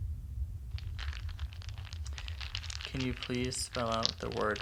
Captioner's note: dice clacking